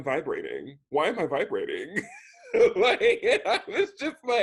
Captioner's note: laughs